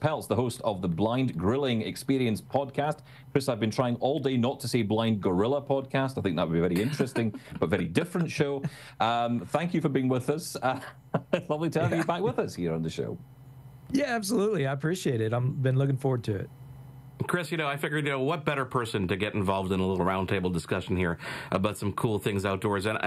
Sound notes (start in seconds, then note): 6.7 laughing; 11.8 laughing